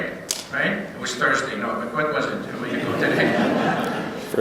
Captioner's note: laughter